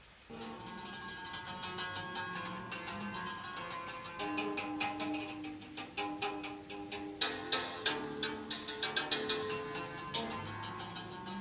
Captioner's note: rain Pouring; instrument Playing